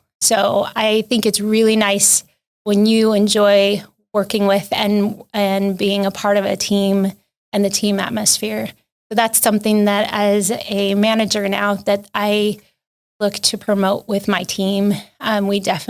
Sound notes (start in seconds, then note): none